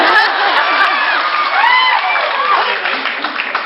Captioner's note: laughs; applauds, cheers; laughs; applauds, cheers